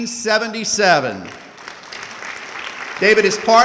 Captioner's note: audience clapping